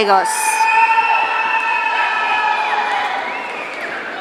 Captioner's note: audience cheering